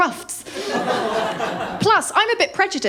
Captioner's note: laughter